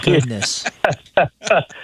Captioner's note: laughing